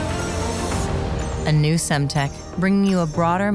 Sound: uplifting music; logos chiming

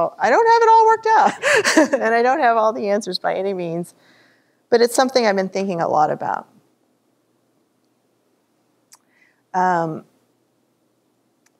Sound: laughter

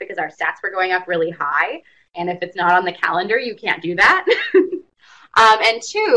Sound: laughs

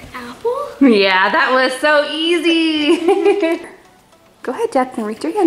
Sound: giggling

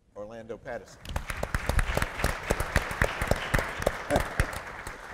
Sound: applause

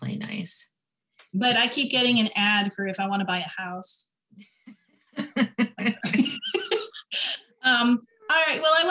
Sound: laughter

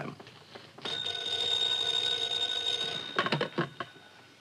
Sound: phone ringing

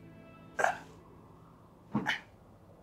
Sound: grunts; wind howls outside

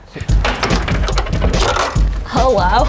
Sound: coin slot clicking

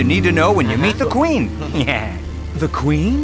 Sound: chuckles

